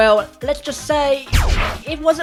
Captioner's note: zap